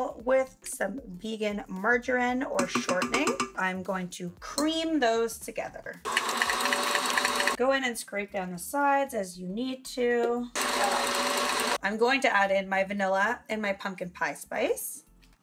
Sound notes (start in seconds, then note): 6.0 mixer whirring; 10.5 mixer whirring